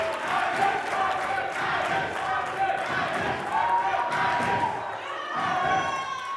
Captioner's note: crowd chanting